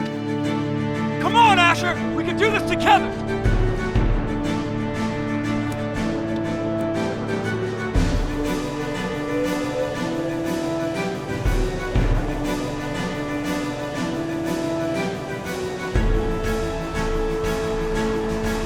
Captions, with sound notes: Come on Asher, we can do this together! (triumphant music) (wind whooshing)